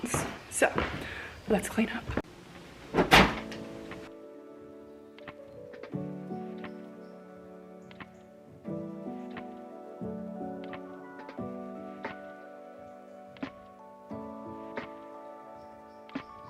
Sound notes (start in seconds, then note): 2.9 items thudding; 4.0 peaceful music